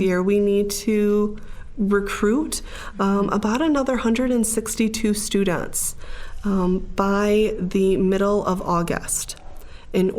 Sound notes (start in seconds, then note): none